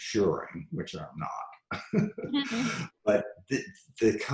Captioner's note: laughs